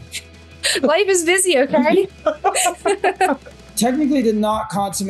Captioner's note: laughing